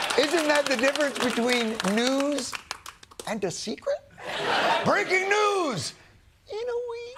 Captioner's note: laughter